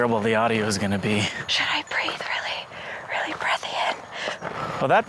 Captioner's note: whispering into mic; exhales and laughs